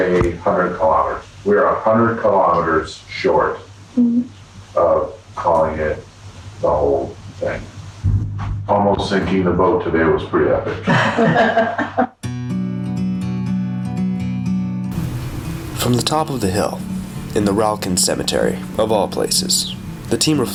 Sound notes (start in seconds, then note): 10.8 laughing; 12.2 mellow music